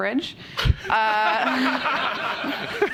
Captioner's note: laughter